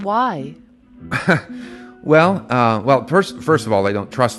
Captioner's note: laughs